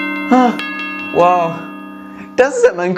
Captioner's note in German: atmet aus